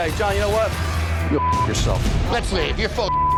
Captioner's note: beep